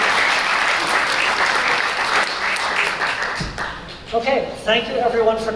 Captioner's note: applause